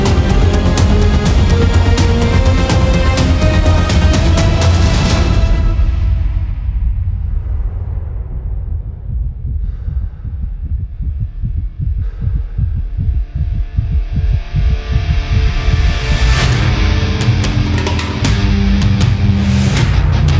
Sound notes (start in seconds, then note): 0.2 dramatic music; 9.4 heavy breathing; 10.1 heart beating; 17.3 hard rock music